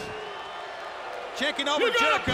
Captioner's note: audience cheers